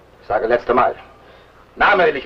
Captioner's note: foreign language